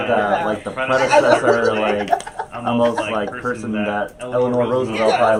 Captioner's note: laughs